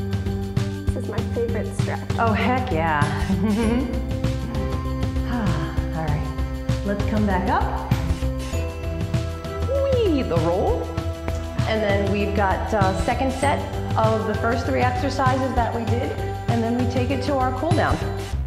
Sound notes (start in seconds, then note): 3.2 laughs; 5.1 exhales